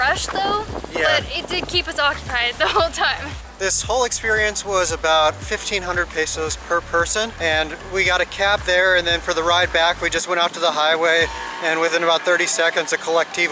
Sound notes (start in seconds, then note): none